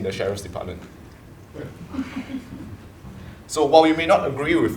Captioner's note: laugh